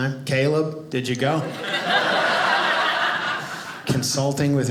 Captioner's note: audience laughing